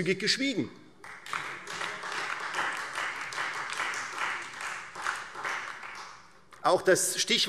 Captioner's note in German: Beifall Freie Demokraten, SPD und DIE LINKE